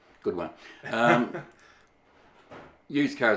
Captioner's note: laughing